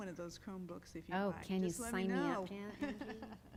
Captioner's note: laughter